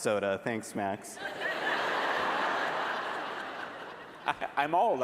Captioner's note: laughter